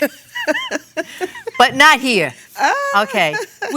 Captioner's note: laughs